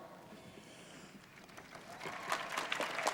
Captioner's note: applause